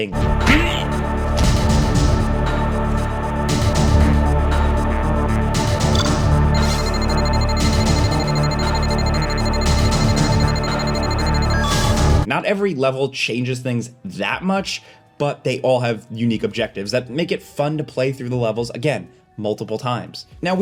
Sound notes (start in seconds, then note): 0.1 character grunts; 2.0 dramatic music; 6.4 device beeping